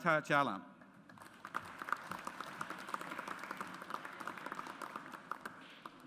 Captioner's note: audience applauds